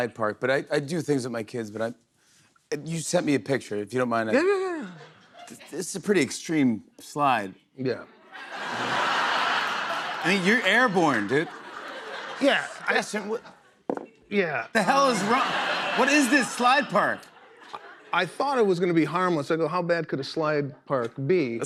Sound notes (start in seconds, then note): 8.3 laughter